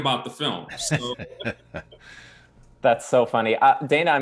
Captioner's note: chuckling